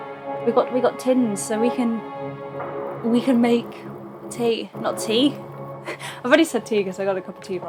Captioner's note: laughs